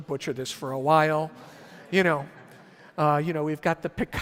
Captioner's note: audience laughs